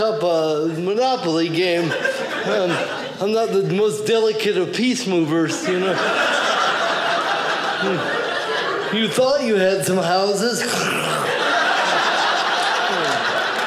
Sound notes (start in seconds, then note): 5.5 audience laughing; 11.5 audience laughing